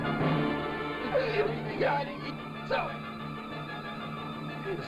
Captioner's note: speaking in foreign language